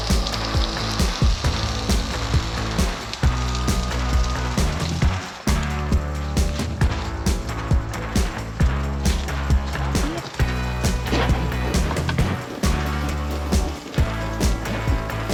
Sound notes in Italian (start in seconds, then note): 0.7 Applauso